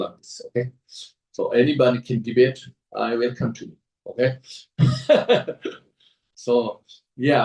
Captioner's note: laughs